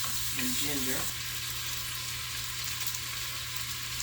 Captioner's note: oil sizzling